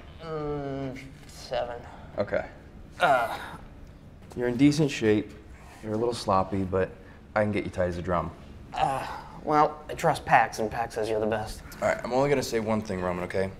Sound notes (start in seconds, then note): 3.0 sound of exertion